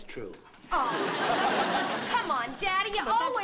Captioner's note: laughter